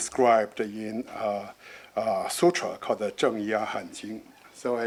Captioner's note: speaking foreign language